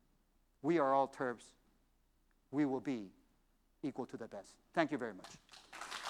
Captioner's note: applause